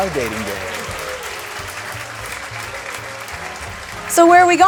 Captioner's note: canned applause